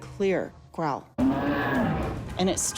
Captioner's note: growling